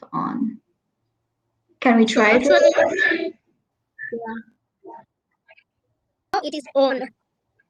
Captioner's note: chatter